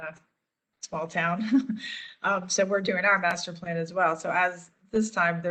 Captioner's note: laughter